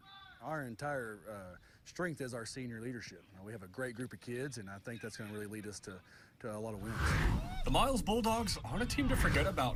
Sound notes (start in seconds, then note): 6.7 air whooshes; 7.3 man whooping